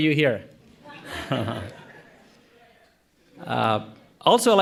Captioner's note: audience laughing